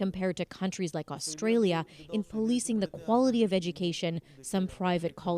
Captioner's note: speaking Foreign Language